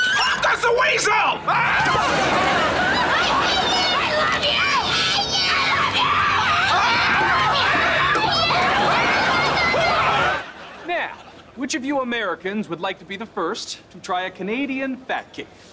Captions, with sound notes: Pop goes the weasel! [screaming] - I hate you! - I love you! - I hate you! - I love you! [screaming] Now, which of you Americans would like to be the first to try a Canadian fat cake.